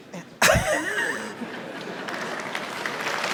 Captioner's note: laughing; audience applauding